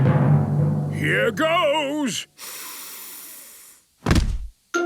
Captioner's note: dramatic drumming music; sniffs